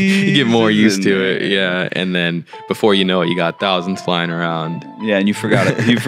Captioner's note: laughes